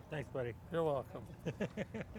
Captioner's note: laughs